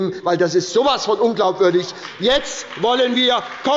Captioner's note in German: Beifall bei der SPD und der LINKEN